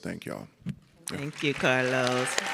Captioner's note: audience and panelists clapping